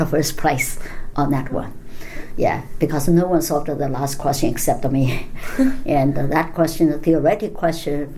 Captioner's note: laughs